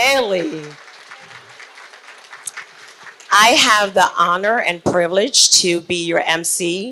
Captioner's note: applause